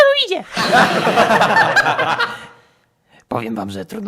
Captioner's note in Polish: śmiech